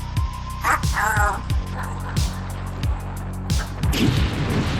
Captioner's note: robot noises; dramatic music